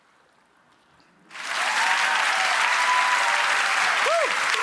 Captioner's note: audience applauding